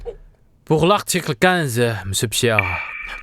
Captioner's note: French